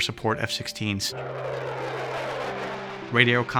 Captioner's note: plane flying